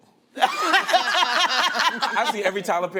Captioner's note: laughter